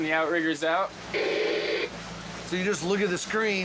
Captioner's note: static white noise